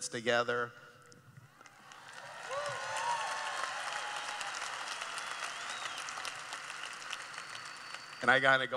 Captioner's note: cheering